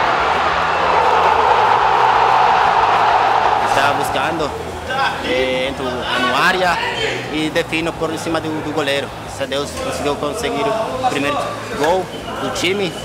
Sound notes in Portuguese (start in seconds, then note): 0.0 sons da torcida; 0.0 gritos de gol